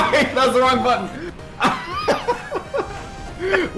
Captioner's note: laughs